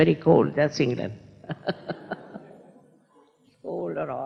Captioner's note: laughs